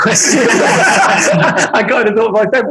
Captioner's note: group laughing